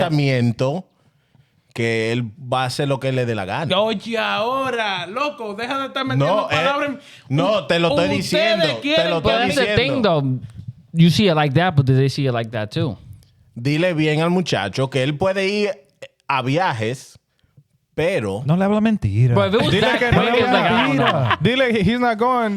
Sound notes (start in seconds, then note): 15.6 speaking In Foreign Language